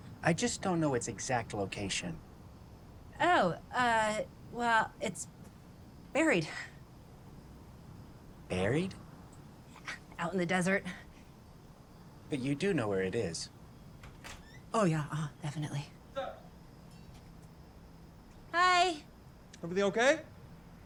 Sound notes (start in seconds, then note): 13.9 door creaks